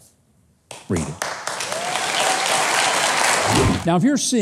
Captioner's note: crowd clapping